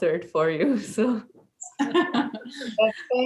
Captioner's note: laughs